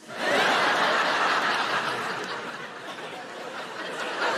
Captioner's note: audience laughing